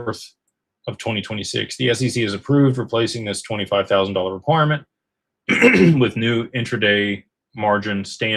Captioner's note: clears throat